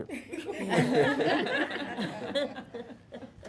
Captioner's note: laughter